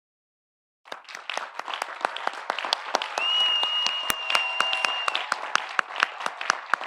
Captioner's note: audience applauding; audience cheering